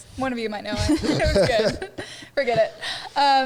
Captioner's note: all laughing